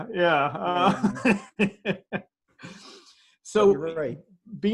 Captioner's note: laughs